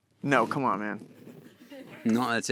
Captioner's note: audience chuckling